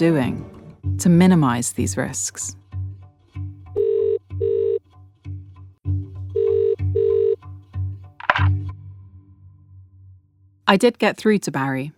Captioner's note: phone ringing